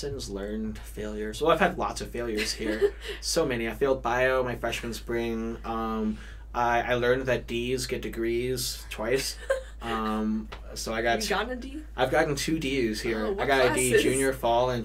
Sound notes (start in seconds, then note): 9.2 laughs